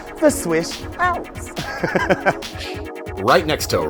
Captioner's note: laughing